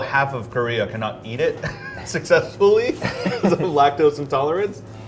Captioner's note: laughing